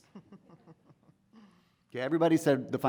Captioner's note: woman laughing